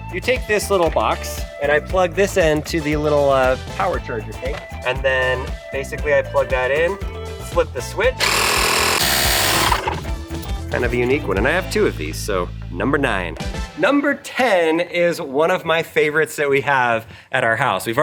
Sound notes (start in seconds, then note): 8.2 machine buzzing